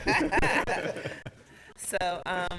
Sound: laughs

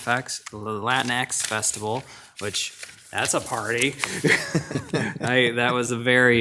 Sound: laughs

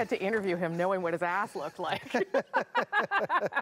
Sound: laughter

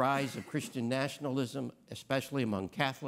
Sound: attendee coughs

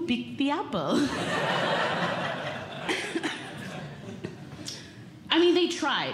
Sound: audience Laughing

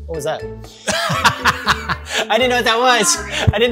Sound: laughing loudly

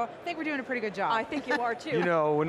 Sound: laughs

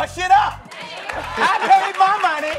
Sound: audience applause

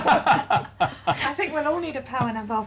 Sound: laughter

